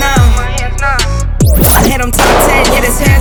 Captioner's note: audio whizzing